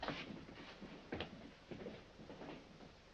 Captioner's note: none